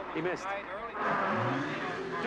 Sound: crane engine revving; screaming in Italian

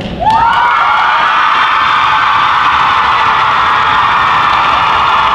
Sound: cheers and applause

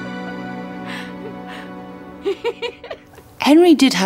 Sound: woman laughs

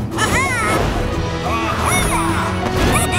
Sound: squawking

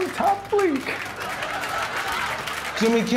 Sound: laughter

